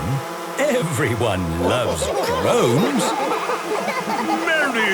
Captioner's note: laughter